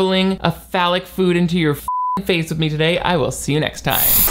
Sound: beep

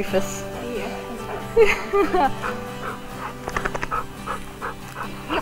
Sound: laughs

